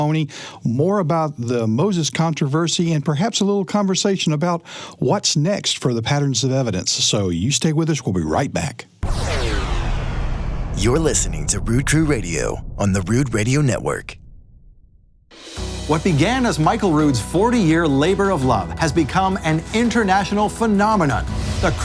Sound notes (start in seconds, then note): 9.0 whoosh; 15.3 upbeat music